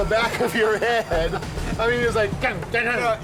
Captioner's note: exclamation and laughter